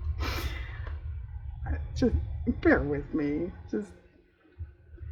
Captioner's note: laughs